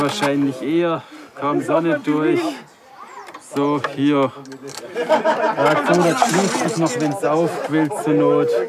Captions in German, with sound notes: Hier wahrscheinlich eher ... kaum Sonne durch. So, hier. (Lachen) Das schließt sich noch, wenn's aufquillt, zur Not.